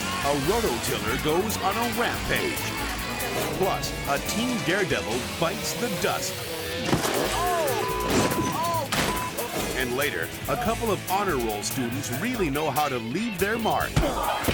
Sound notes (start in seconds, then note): 9.0 beep